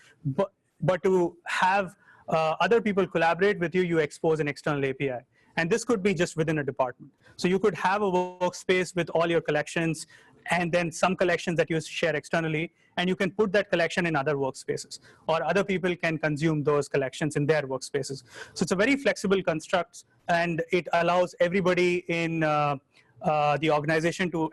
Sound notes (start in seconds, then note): none